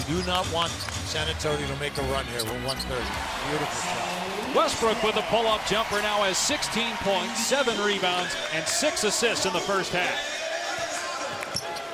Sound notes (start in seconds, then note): 8.7 cheers and applause